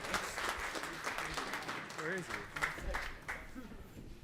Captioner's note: audience applauding